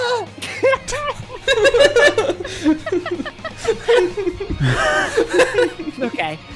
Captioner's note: everyone laughing